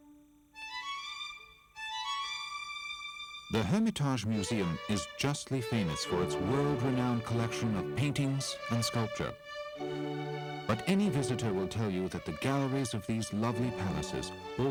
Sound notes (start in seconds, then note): 3.9 voiceover